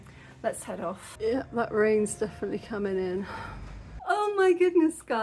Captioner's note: sigh